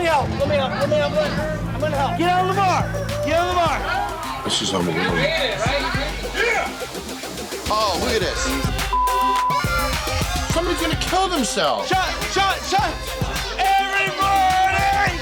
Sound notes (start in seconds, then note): 8.8 beep; 9.9 party music blaring